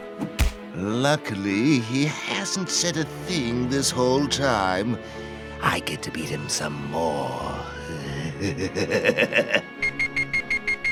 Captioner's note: laughter